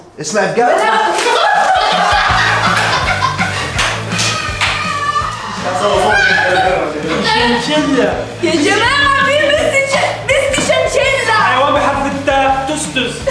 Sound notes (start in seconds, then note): 0.1 balloon pops; 7.0 mockingly